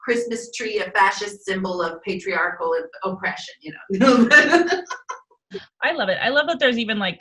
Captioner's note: laughing